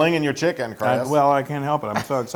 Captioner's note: laugh